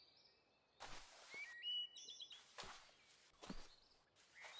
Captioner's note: tent rustling